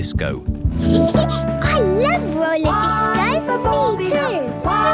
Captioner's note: Peppa laughing; trumpeting